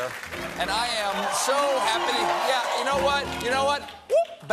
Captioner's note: cheers and applause